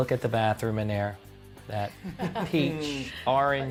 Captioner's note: laughing